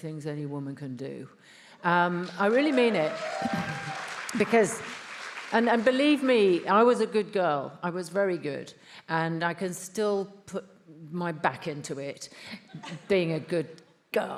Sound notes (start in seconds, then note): 2.1 attendees applauding; 2.2 attendees cheering